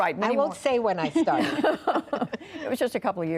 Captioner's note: laughter